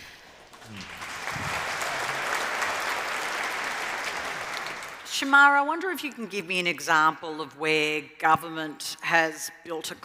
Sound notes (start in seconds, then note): 0.2 applause